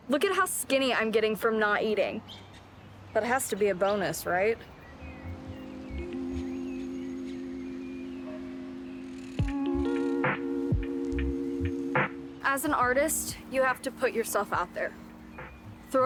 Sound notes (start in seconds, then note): 5.5 birds chirp; 6.6 somber music